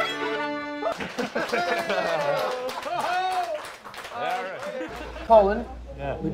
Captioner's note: audience cheers and applauds